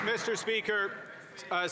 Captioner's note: some Applause